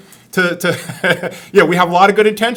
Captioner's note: laughs